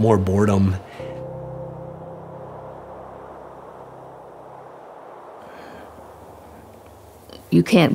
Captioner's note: soft Breeze